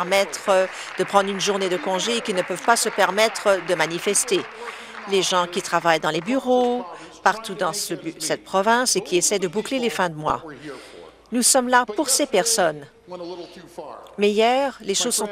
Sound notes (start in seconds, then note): 4.7 applause